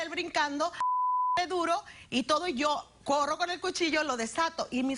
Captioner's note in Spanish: Bip